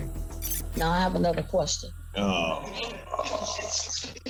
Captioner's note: groaning